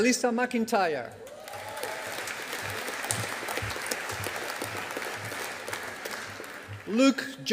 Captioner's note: audience applauding